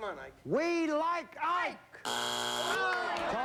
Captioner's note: buzzer